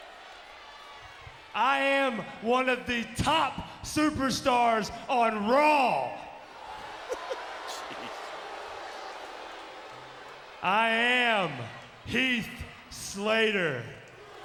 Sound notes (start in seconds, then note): 6.6 crowd clamoring; 6.9 chuckles